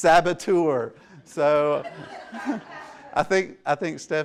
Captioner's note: laughter